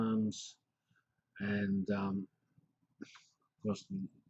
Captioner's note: pause